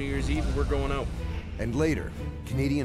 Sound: voiceover

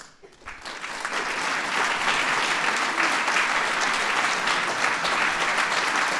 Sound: applause

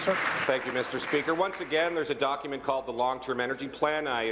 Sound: applause

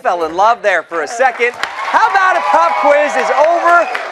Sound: cheers and applause

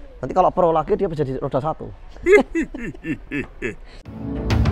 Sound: chuckles

